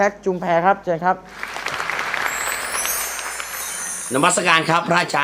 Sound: clapping

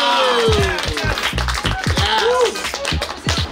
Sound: cheering and applauding

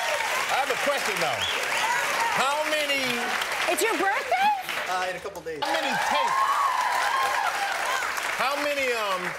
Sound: cheers and applause

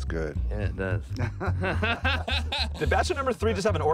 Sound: laughs

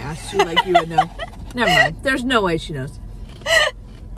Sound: laughing

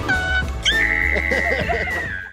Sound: screaming

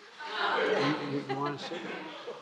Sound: laughter

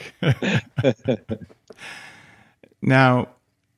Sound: laughing

